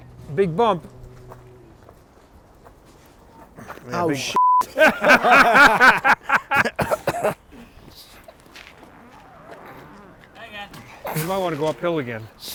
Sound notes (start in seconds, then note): 4.3 beeps; 4.6 all laughing